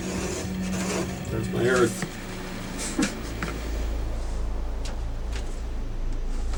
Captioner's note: chuckles